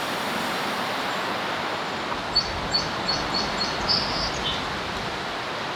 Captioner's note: birds